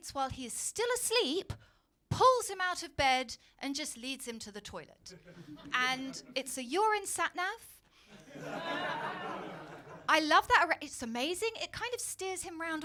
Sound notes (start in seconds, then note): 8.1 crowd laughing